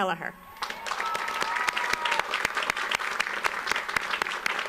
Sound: audience applauds

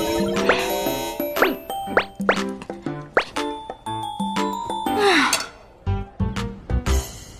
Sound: system alert

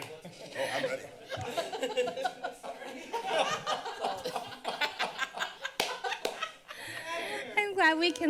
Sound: laughter

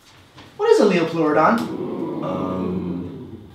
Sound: audience ooooohs

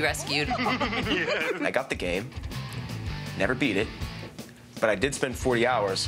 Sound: giggling

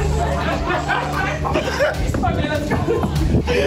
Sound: laughter and footsteps

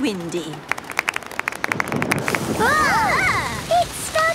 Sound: exclamations; thunder

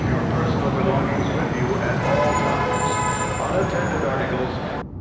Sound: car honks

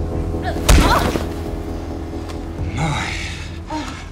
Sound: punch thuds, groans

